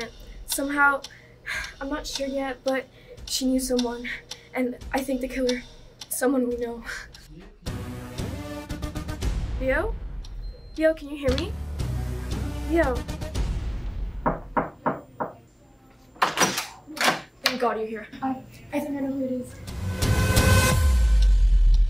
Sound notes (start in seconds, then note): 1.0 sighs; 14.2 knocking; 16.2 door clicks open